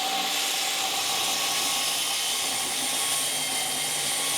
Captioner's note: saw whirring